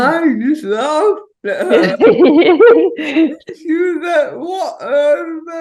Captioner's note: chuckles; both chuckling